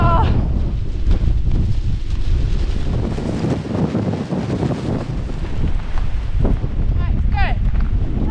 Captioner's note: wind